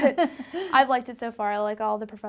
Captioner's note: laughs